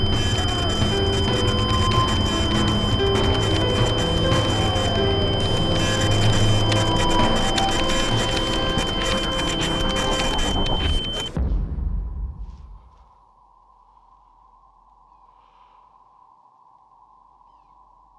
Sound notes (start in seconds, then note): 8.5 dramatic music; 12.9 wind howling